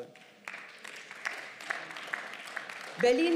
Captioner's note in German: Beifall